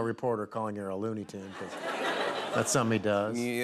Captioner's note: laughter